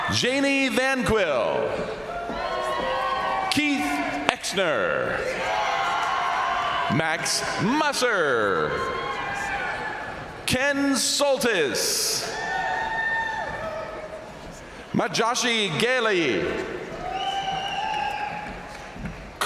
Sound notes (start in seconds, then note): 1.7 crowd applauding; 1.7 crowd cheering; 5.0 crowd cheering; 5.3 crowd applauding; 8.3 crowd applauding; 12.4 crowd cheering; 16.1 crowd cheering; 16.8 crowd applauding